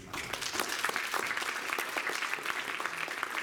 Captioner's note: applause